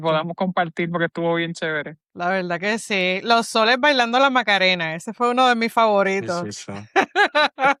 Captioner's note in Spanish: risas